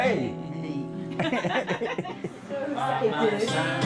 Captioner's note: group laughs